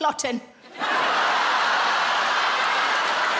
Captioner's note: laughing